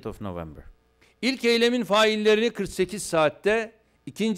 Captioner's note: non-english speech